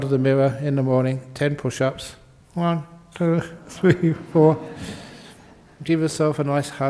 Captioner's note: laughter